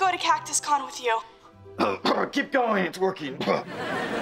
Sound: feigns coughing

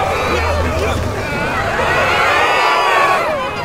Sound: group screaming

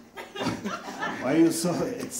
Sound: audience laughs

